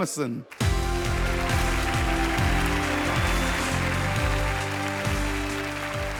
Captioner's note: audience applauds; wondrous music